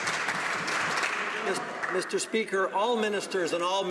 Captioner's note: some Applause